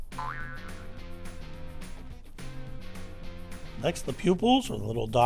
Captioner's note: spring bouncing